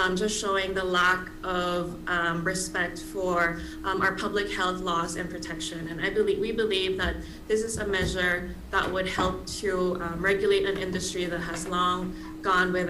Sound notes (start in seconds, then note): none